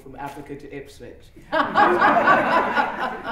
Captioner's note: laughter